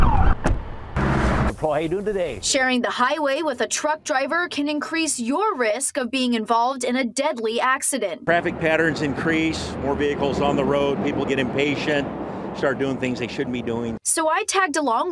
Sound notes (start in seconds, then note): 0.1 nats of cars driving on the highway